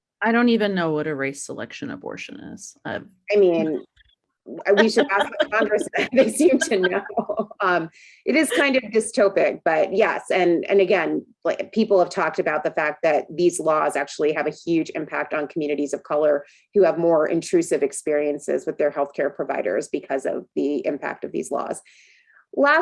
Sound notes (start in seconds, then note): 4.8 laughs; 7.4 both laughing